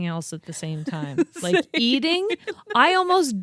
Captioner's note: laughs